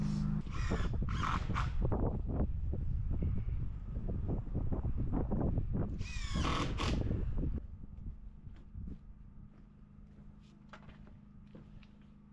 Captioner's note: clippers buzzing